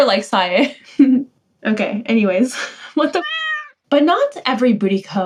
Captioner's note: meow